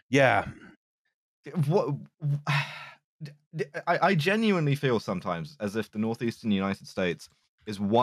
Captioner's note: stammers